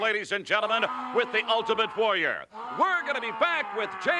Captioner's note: Ultimate Warrior screaming